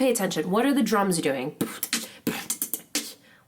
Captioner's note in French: batterie vocale